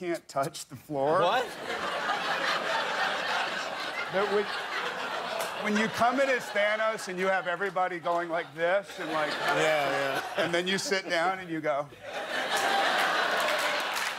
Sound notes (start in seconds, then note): 5.3 laughter